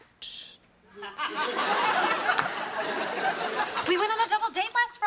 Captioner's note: audience laughing